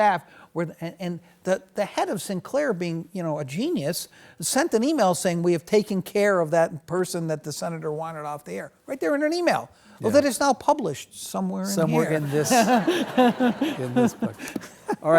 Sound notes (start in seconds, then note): 12.0 laughs; 12.0 audience laughs